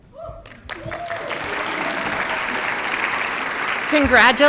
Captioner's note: applause